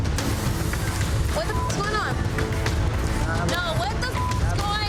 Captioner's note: beep; beep